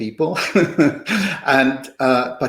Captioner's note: laughter